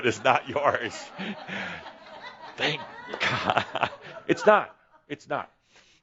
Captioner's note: laughter